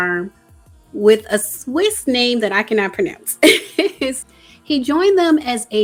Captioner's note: laughs